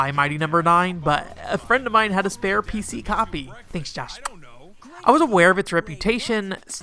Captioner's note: kiss noise